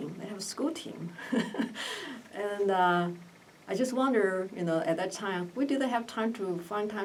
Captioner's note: laughs